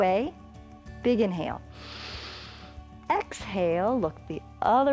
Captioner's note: inhales